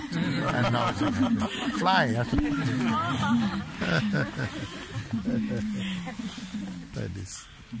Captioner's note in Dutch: gelach